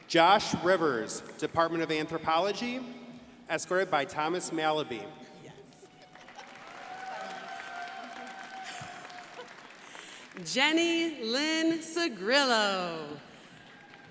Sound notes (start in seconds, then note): 5.7 crowd applauding